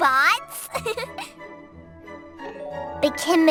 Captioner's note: chuckles